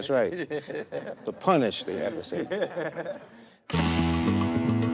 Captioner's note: audience laughing; lively music